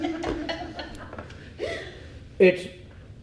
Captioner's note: audience laughs